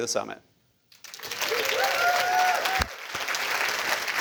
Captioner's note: cheers; applause